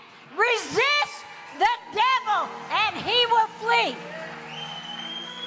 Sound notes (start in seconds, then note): 4.1 congregation applauding